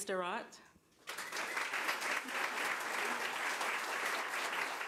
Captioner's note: crowd applause